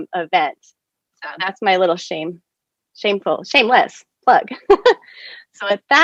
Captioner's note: chuckling